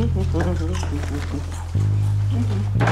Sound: humming

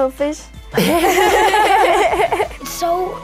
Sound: laughter

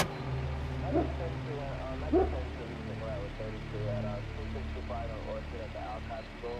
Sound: faint police radio chattering

